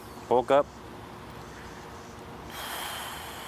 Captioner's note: sighs